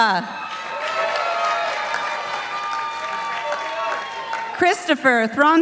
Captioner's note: participants applauding